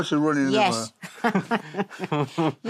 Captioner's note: chuckles